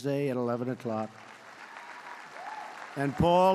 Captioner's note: applause